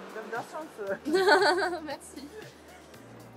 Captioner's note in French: Rires